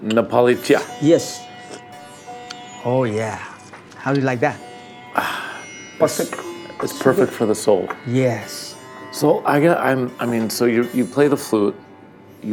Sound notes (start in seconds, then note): 1.6 slurps